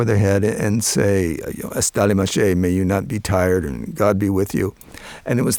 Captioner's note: speaking Pashto